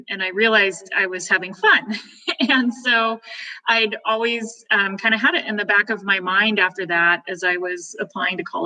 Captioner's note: chuckles